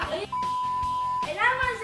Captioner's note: beep